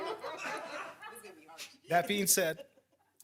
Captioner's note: people laughing